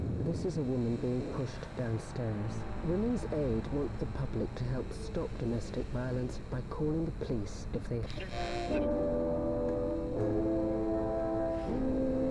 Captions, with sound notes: - [Radio Announcer] This is a woman being pushed downstairs. Women's Aid wrote the public to help stop domestic violence by calling the police if they-- (static hissing) (calm music)